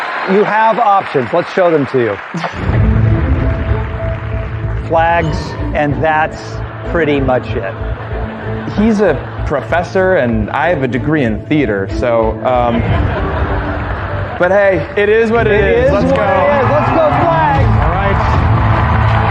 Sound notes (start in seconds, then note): 12.5 laughter